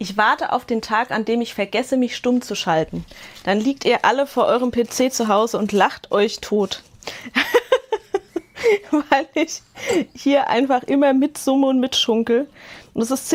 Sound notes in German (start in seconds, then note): 7.3 Gelächter